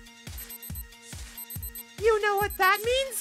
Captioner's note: watch alarm